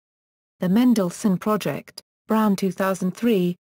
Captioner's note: German